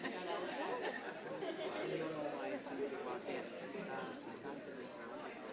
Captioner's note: group chattering